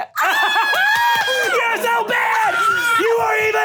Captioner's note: screaming and laughing